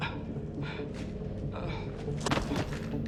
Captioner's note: thud